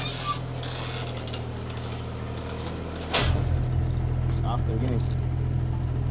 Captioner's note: banging drowns out speaker